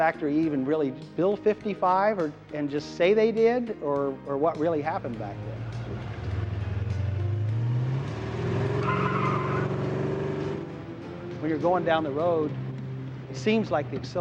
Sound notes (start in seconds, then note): 6.5 slow rock music; 7.4 tires squealing; 8.5 engine revving